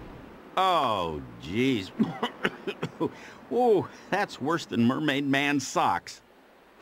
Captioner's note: coughs